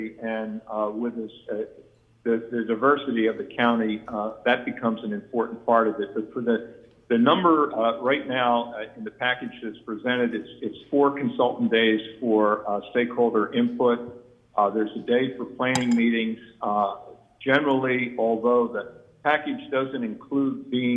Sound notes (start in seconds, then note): none